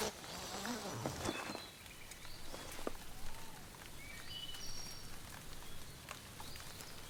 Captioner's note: tent unzipping; birds chirping